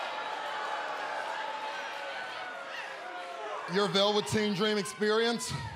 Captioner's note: cheers and boos